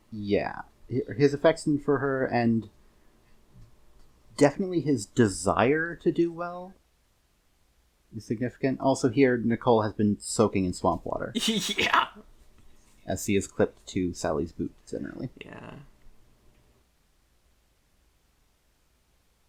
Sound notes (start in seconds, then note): 11.4 laughing